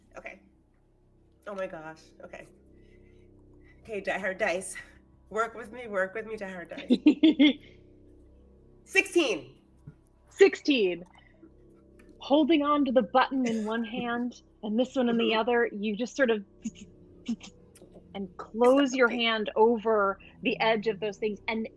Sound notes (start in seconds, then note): 6.7 laughing; 17.0 imitates zapping